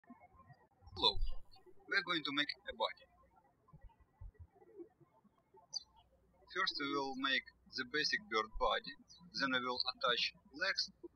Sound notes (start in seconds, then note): 3.8 birds chirping